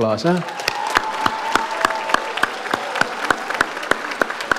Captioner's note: audience applauds